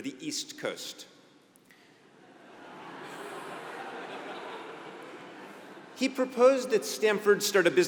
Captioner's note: laugh